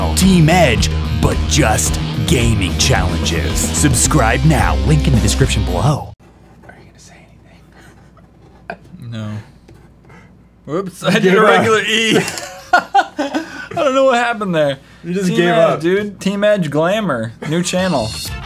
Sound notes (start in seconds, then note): 6.9 whisper; 12.1 laughter